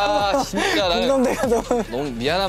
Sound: haha

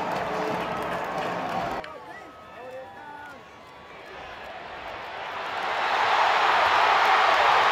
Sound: crowd noise; cheering

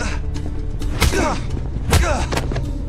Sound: grunt

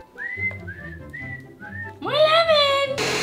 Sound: whistles

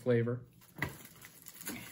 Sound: chocolate breaking, and paper rustling, noises

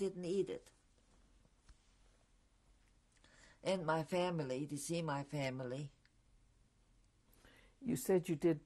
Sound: pauses for 3 seconds

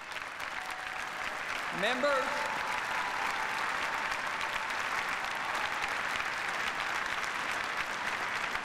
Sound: applause

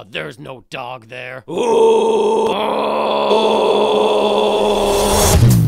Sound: both growling

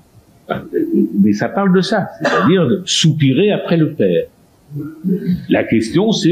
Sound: to sigh

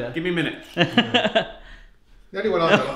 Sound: laughs

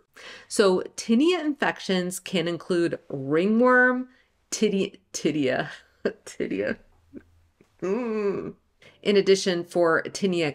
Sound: groans

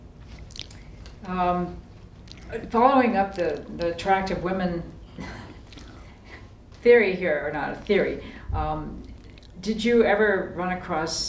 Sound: laughter

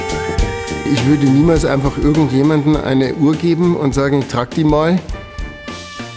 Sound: German

